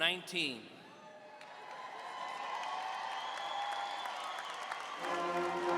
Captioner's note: audience applauding and cheering